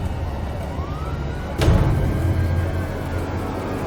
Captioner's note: siren wailing